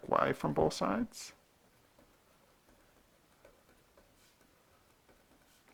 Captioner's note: writing